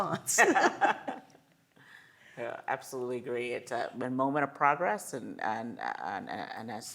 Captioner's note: laugh